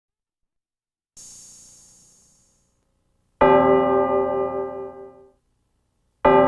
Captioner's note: bell chimes